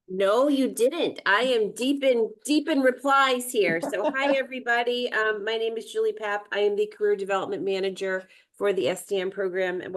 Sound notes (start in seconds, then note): 3.7 chuckling